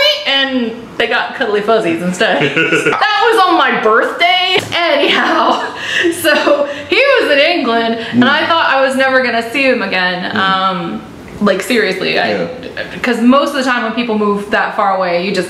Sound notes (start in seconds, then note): 2.3 laughter